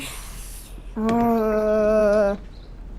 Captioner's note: groans